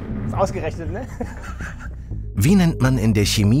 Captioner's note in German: Lachen